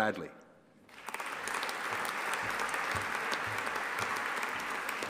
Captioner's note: audience applauding